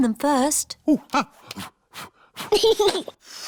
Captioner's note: blows; giggles and blows